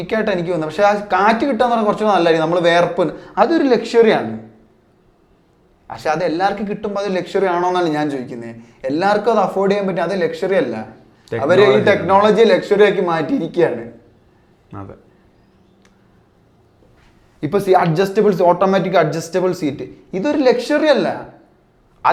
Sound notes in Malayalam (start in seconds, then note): 14.8 തൊണ്ട ശരിയാക്കുന്നു